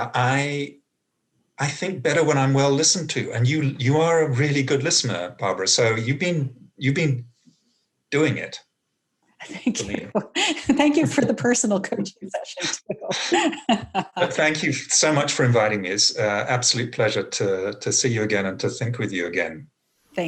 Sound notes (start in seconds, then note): 13.5 both laugh